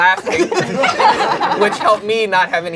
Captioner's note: crowd laughing